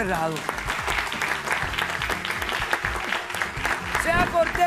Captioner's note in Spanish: aplausos